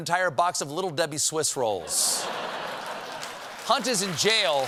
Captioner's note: laughter; applause